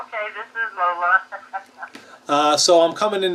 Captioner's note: laughs